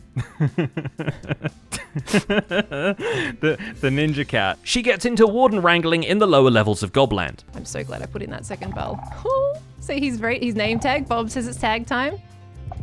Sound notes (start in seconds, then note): 0.1 nervous laughter; 8.6 sculk sensor rattles; 9.3 whimpers